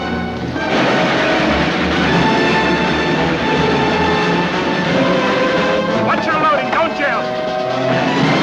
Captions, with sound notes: (tense instrumental music) (flames crackling) Watch your loading. Don’t jam.